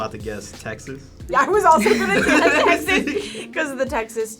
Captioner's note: laughing; laughs